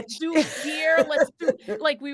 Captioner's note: actors laughing